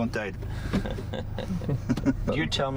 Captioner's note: laughing